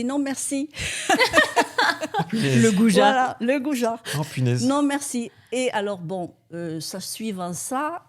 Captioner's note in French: rires